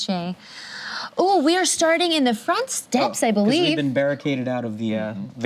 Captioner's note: gasps